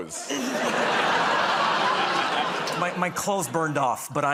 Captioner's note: laughter